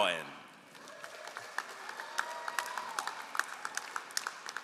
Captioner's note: all applauding